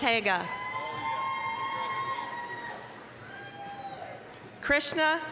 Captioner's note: applause, cheering